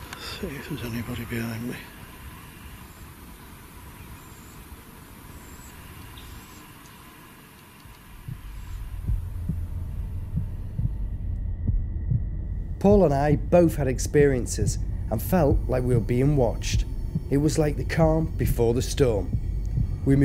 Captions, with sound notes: see if there's anybody behind me. (heart beating) - Paul and I both had experiences and felt like we were being watched. It was like the calm before the storm.